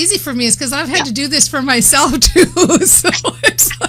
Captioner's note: laughs